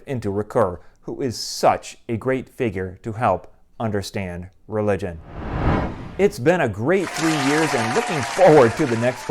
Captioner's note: applause